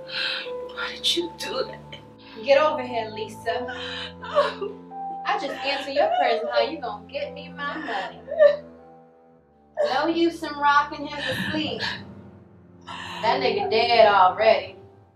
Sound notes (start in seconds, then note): 5.4 Lisa crying; 7.9 Lisa crying